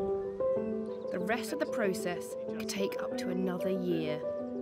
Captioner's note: jaunty piano music; seagulls squawking